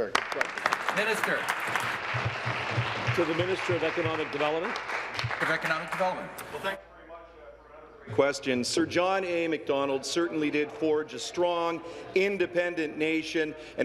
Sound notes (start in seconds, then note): 3.3 applause